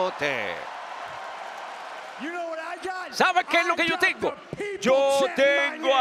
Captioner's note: applause